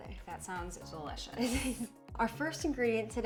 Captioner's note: chuckling